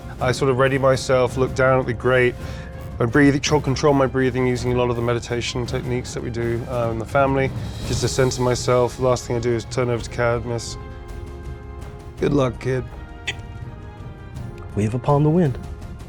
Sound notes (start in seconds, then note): 13.3 tongue clicks